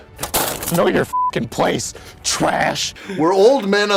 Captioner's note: beeping